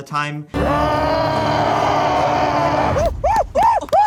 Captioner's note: Sasquatch yelling; Sasquatch howling excitedly